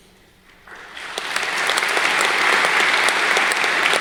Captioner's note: crowd clapping